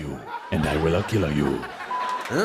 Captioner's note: laughter